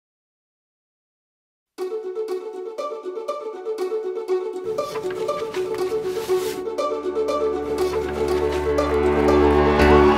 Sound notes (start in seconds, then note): 4.6 paper unfolding